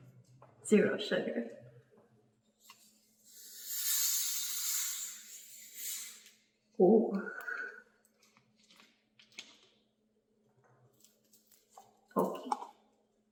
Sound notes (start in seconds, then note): 3.2 bottle hisses